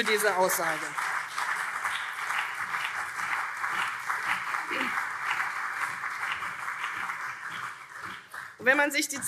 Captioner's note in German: Beifall CDU und SPD